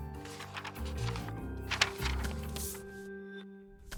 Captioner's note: paper rustling